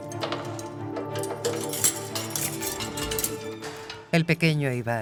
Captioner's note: keys clinking; lock clicking